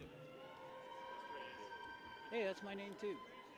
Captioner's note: people cheer